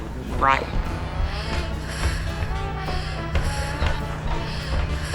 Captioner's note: heavy breathing